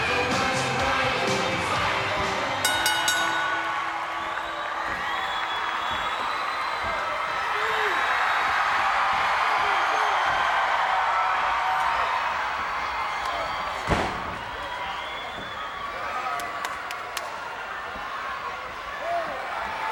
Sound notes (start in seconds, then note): 2.6 bell rings; 8.5 crowd cheering; 14.2 body thuds